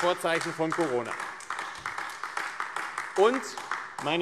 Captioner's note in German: Beifall AfD